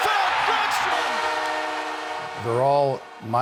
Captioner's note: horn sounds